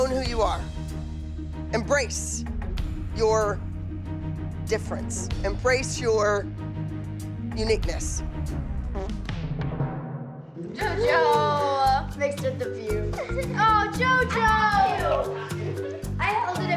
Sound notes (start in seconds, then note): 8.9 farts; 14.5 girls laughing